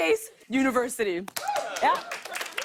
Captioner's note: cheers and applause